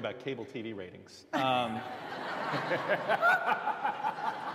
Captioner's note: laughter